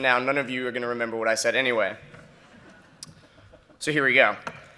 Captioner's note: laughter